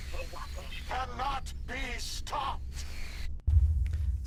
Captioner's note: static